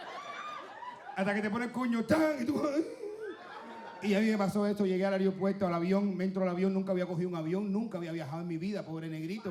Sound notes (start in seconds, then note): 0.9 speaking Spanish